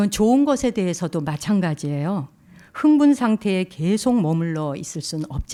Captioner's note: speaking in Korean